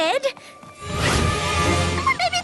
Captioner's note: whoosh